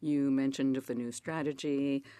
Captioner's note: speaking French